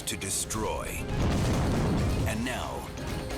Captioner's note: flames roaring